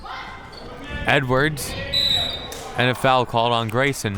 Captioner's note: whistle tweeting